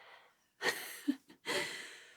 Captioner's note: giggling